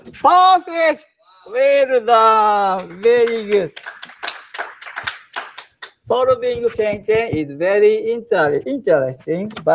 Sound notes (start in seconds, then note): 2.7 applause